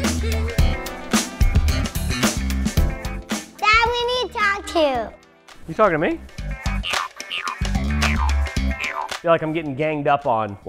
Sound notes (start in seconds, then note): 0.1 jazz music; 6.6 boinging